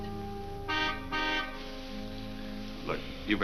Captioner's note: car horn honks